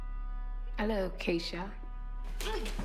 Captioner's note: British accent